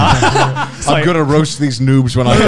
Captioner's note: laughing